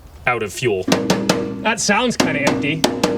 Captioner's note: metal clanking